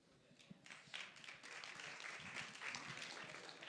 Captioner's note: applause